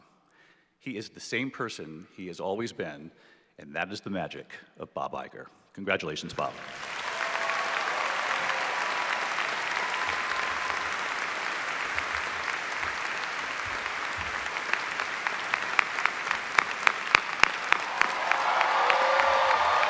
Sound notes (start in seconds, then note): 10.7 applause